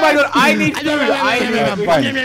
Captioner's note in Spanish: añamñamñam